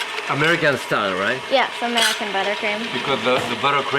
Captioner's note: whirring continues